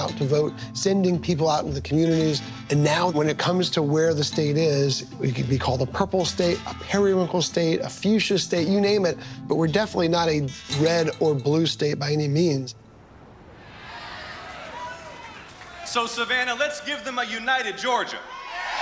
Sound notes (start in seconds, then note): 13.4 crowd cheering; 18.2 cheering and applause